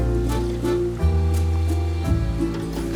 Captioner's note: nom nom